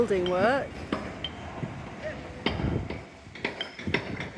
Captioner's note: hammering; loud hammering